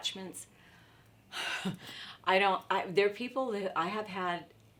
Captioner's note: sighs